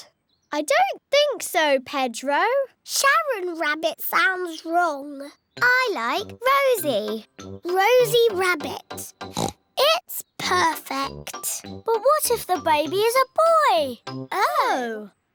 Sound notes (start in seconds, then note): 9.2 oinks